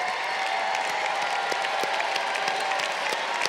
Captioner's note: crowd cheering